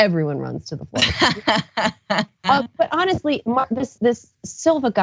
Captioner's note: laugh